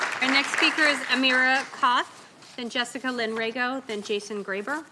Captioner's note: applause